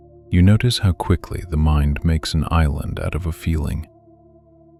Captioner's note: low and reassuring